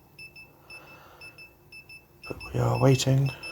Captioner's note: oh sweet Lord, the beeping